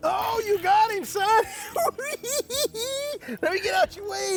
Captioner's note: laughing